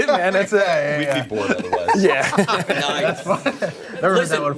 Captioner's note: laughter